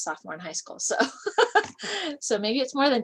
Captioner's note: laughter